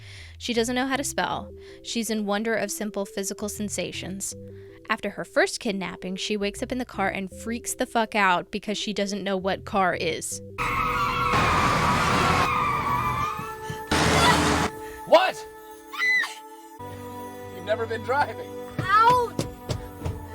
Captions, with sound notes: She doesn't know how to spell. She's in wonder of simple physical sensations. After her first kidnapping, she wakes up in the car and freaks the fuck out because she doesn't know what "car" is. [brakes squealing] [extremely loud engine] "What?!" [screams] "You've never been driving." "Out!"